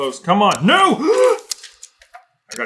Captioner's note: gaaasp!